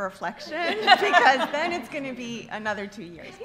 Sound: laughter

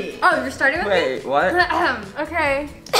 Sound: clears throat

